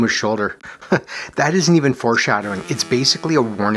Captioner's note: chuckles